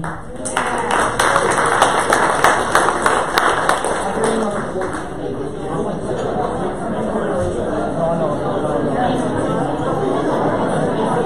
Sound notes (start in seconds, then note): 0.0 applause; 4.7 background chatter